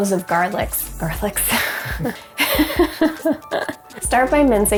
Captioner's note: laughs